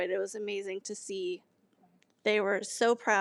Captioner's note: none